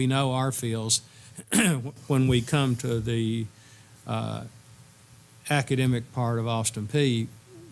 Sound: cough

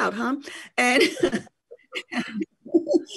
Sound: laughs

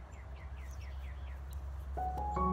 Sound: birds singing

